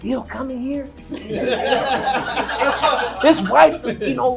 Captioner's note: crowd laughing